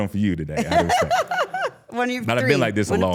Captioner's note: laughs